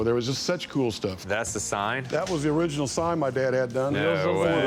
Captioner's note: none